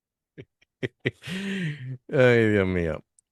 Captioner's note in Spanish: risas